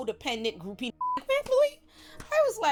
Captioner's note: beep